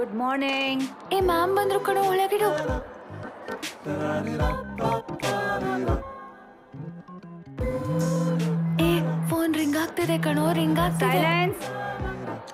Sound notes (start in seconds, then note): 8.0 mobile vibrating